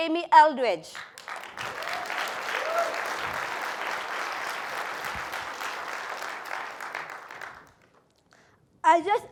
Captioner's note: applause